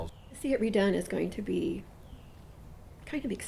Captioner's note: voiceover